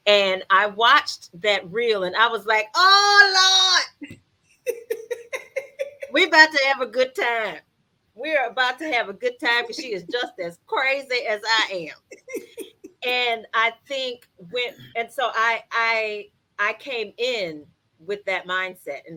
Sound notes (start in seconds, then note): 4.6 laughs; 11.1 laughs